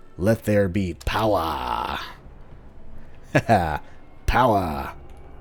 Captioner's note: machinery whirring to life